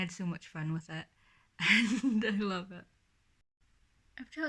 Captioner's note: laughing